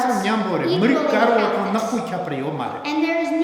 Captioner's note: speaking tibetan